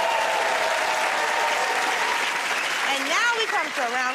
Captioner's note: cheers and applause